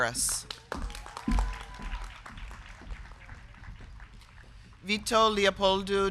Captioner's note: crowd clapping; crowd cheering